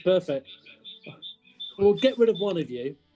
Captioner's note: echoes as feedback